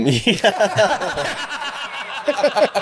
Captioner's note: laughing